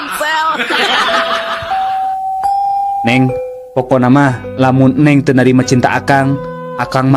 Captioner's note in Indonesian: tertawa